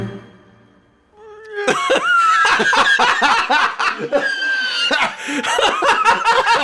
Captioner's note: Bolin: cries Internet Dads: erupt with laughter